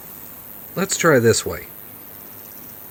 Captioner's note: audio Glitch